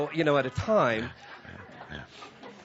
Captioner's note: laughter